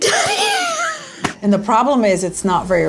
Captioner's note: laughing